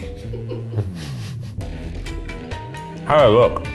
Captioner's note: laughs